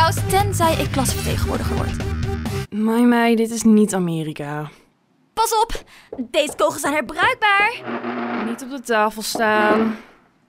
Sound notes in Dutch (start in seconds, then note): 7.6 schrapend geluid